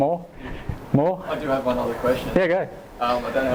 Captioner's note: voiceover